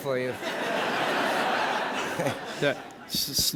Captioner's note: laughter